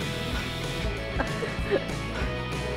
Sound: laughing

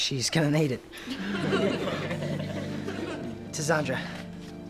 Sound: laughing

